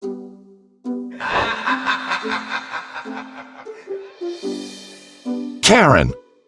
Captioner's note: vampire laughs maniacally